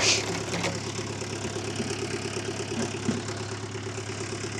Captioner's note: tractor rumbling